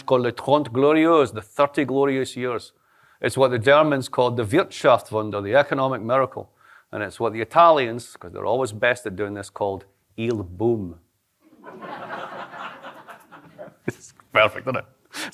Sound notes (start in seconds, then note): 11.4 laughter